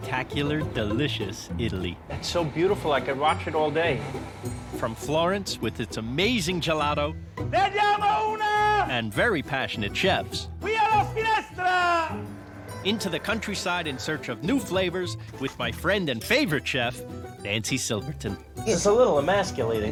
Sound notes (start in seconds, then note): 0.0 shouting in Italian; 3.5 more shouting